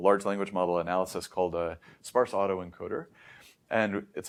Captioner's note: inhales